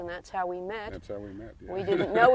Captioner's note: laughing